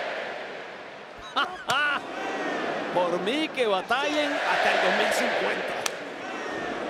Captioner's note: laugh